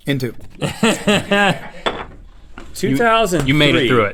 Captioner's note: laughing